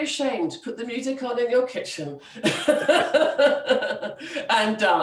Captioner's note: laughs